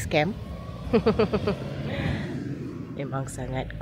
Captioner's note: laugh